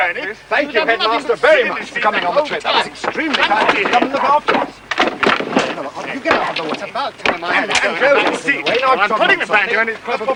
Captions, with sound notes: Thank you, headmaster, very much, for coming on the trip. (ALL ARGUING) - Get out of the way... - It's about time I... I'm putting the banjo in its proper place.